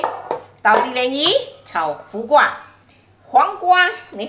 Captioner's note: Cantonese